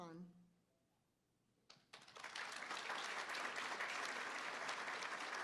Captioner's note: applause